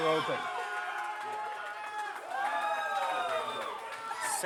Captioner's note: crowd cheering